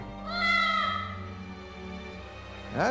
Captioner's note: cat meows